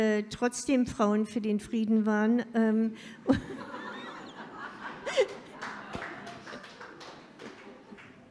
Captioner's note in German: Publikum lacht